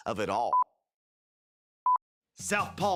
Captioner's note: film beeps